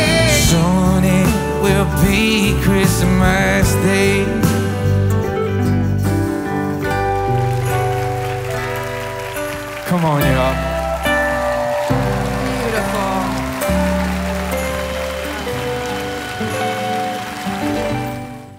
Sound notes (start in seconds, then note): 5.0 soft music; 8.0 crowd cheering; 11.6 crowd clapping; 11.6 soft music